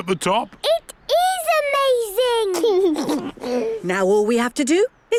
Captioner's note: George giggles